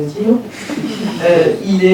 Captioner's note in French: rires